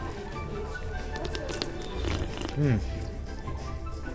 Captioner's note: chewing and slurping